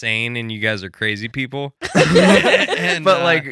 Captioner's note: laughing